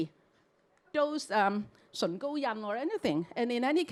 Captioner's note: Cantonese